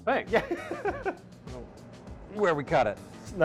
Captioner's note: laughing